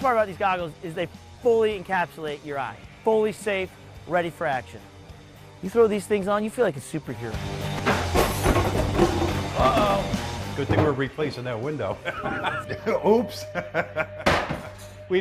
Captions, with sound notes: The best part about these goggles is they fully encapsulate your eye. Fully safe, ready for action. You throw these things on, you feel like a superhero. Uh-oh. Good thing we're replacing that window. [laughter] Oops.